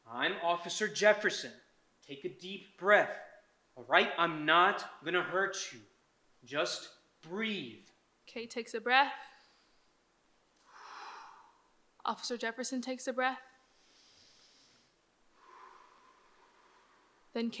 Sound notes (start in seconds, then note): 10.6 inhales and exhales; 13.8 Jefferson inhales and exhales